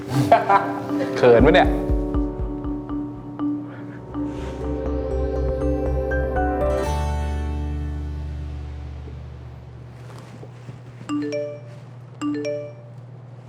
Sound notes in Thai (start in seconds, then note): 0.2 เสียงโอมหัวเราะ; 11.1 เสียงข้อความแจ้งเตือน